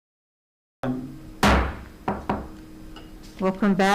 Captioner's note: gavel bangs